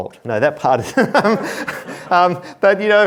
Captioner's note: laughs